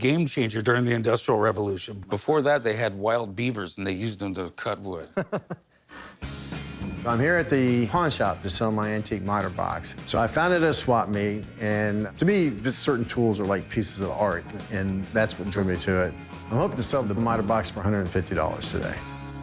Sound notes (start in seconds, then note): 5.0 laughs; 6.9 sawing